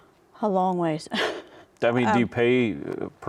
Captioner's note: laughs